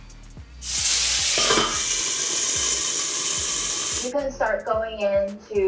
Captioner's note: pan sizzles